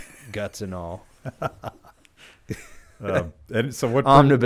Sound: chuckling

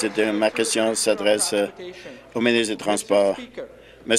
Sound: applause

